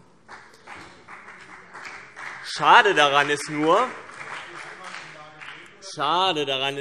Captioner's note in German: Vereinzelter Beifall CDU und BÜNDNIS 90/DIE GRÜNEN